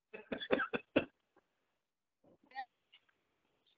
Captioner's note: laughs